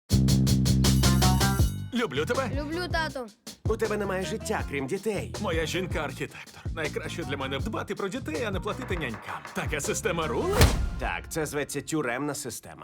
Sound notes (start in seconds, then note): 0.7 school bell rings